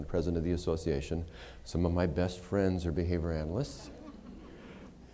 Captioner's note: laughter